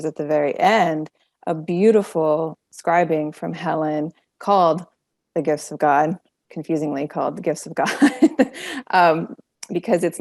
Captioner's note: laughing